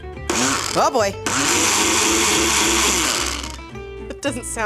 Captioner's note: blender whirring